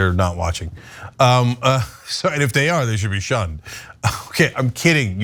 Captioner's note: laugh